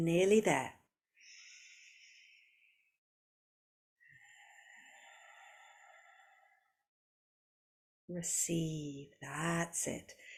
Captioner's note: breathes